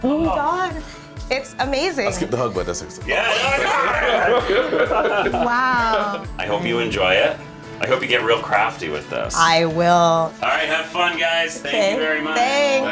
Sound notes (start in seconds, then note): 3.1 all laughing